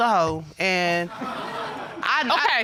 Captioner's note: audience gasping